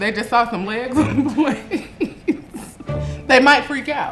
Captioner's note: laughs